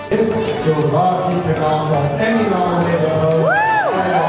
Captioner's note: announcer speaking; people cheering